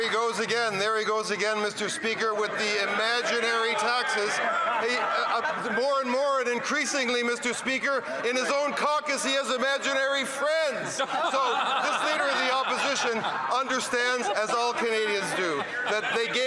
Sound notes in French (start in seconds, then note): 7.1 voix de l'interprète